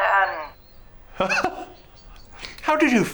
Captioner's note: laughs